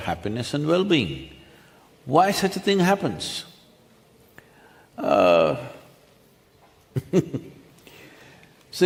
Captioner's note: laughs